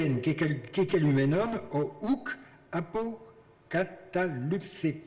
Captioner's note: speaking in foreign language